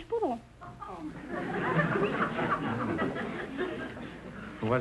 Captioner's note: audience laughter